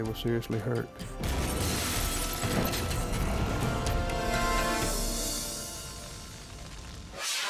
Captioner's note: dramatic music; car crashing